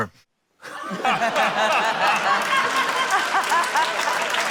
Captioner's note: laughter, applause